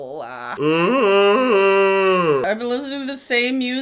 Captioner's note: groaning